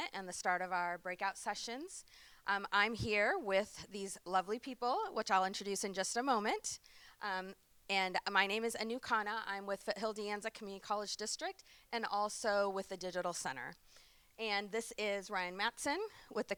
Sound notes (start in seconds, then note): none